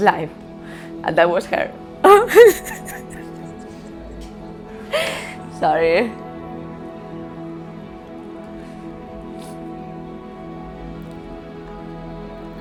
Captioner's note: crying